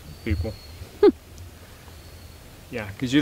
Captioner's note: Lydia chuckles